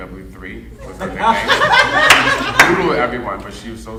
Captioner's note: audience laughing